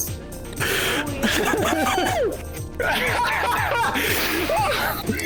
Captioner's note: laughter